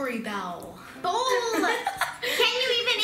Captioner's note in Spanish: risas